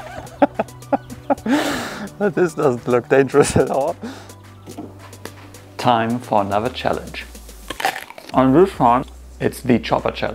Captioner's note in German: Gelächter